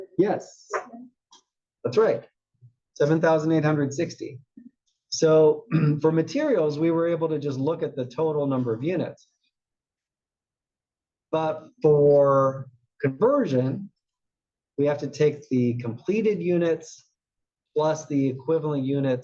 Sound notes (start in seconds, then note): 5.6 cough